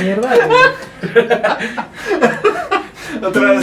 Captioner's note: laughs